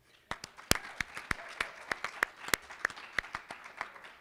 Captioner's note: applause